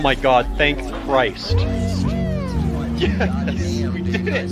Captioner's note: team cheering and congratulating each other